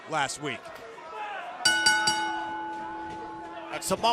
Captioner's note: bell ringing